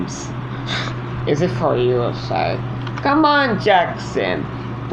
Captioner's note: scoffs